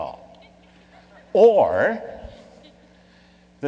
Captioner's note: laughing